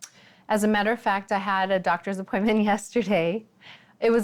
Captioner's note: chuckles